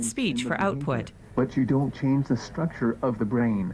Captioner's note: voiceover